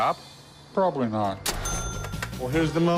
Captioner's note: cash register rings